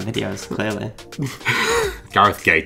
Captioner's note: chuckles